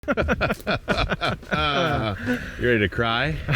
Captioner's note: both laughing